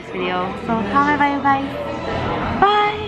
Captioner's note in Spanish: habla extranjera